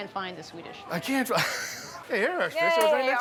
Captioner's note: laughs